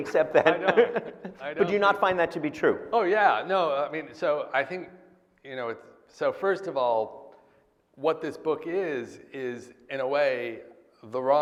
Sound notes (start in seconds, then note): 4.0 laughs